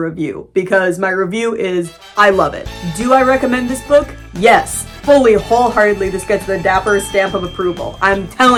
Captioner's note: snazzy music; ding